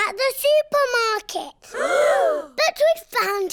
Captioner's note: all gasp